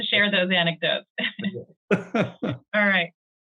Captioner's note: chuckling